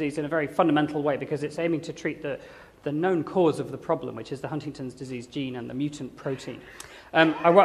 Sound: none

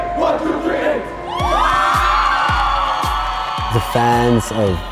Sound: crowd cheering

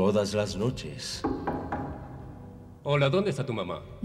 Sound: knocks

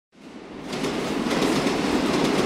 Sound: train Noises

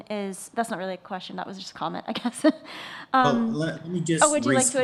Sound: laughs

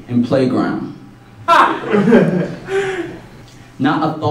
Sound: laughter

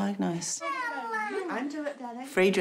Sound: babbles

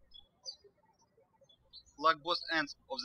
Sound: birds chirping

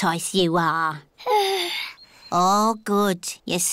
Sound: yawns

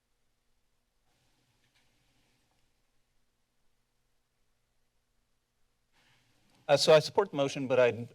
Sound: silence

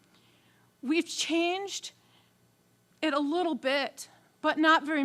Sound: voice wavering

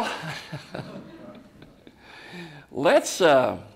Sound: laughs

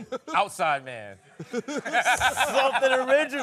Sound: laughing

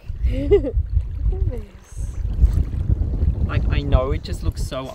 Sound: giggling

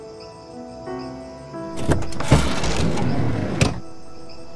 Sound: door Opening

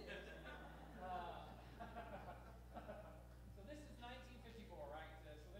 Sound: laughs

